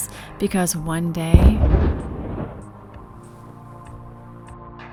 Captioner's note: explosion noise